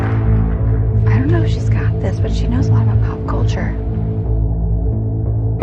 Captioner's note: quietly